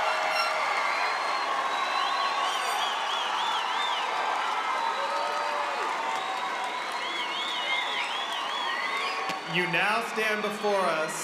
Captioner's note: cheering and applause